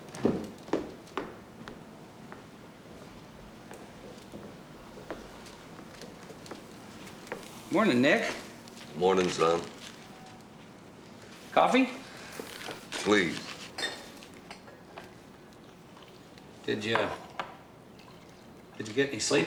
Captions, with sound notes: (footsteps) Morning, Nick. Morning, son. Coffee? Please. Did ya-- did ya get any sleep last night?